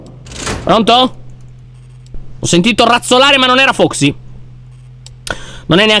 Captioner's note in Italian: rumore di passi